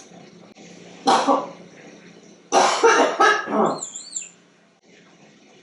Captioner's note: coughing sound